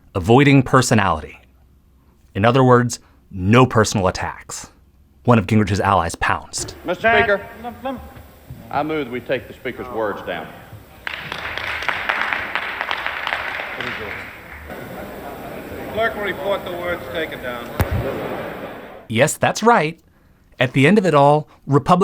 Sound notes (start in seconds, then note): 11.0 scattered applause